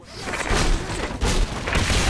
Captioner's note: assorted gunfire